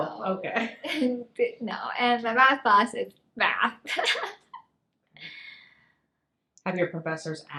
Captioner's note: laughs